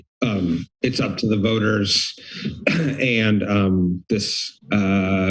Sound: coughs

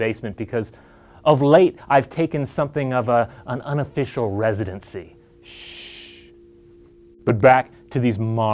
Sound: shhh

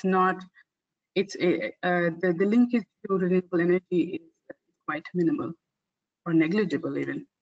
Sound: audio static

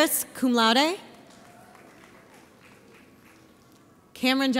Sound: audience applauds

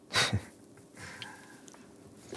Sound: laughs

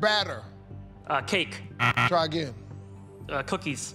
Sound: buzzer

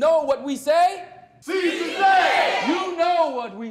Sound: crowd

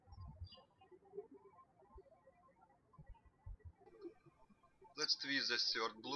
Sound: birds chirping

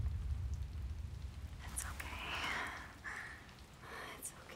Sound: whispering

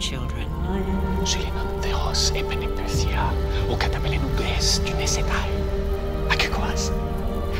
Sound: Themistocles speaking in foreign language

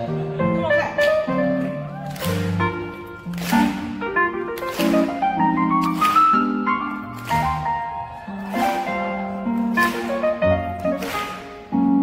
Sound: audience claps while piano plays

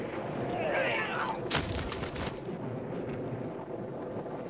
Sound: thud

